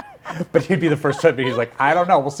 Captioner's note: both laughing